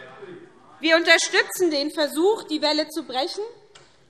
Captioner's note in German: none